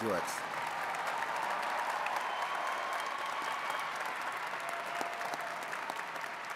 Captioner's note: attendees cheering and clapping